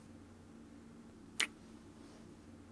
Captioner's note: kiss